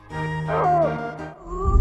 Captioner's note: cry of agony